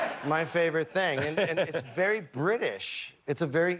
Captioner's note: laughter